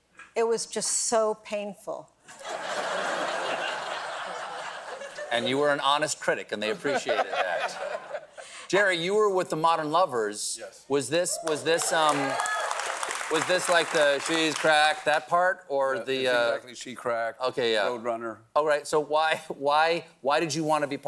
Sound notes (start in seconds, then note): 2.3 laughter; 11.4 applause